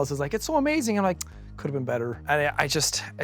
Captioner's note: clicks tongue